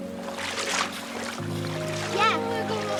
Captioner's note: splashes of water